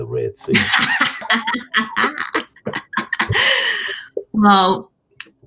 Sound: laughter

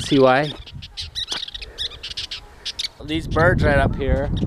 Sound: birds chirping

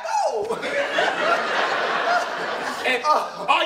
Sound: audience laughter

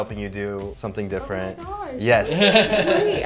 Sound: laughs

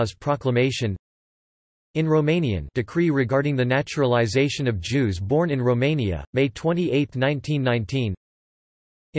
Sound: in Romanian

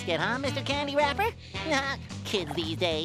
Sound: laughing

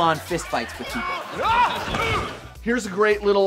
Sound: groaning

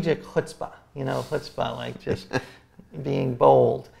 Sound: laughs

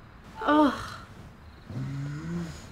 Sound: groaning

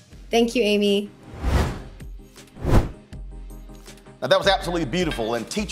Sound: whooshes

